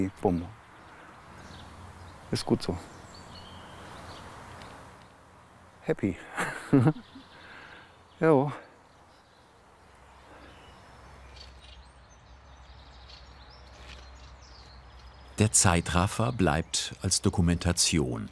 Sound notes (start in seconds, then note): 6.2 laughs